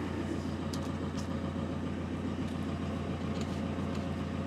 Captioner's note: engine whirring